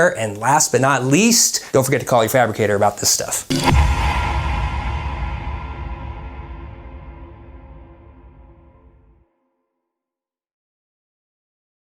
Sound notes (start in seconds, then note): 3.5 boom resonating